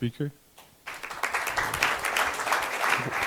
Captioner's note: clapping